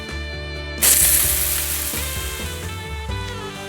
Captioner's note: splash! 🔫